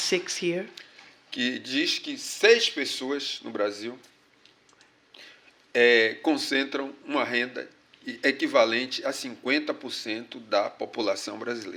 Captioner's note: speaking portuguese